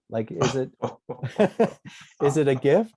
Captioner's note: laughter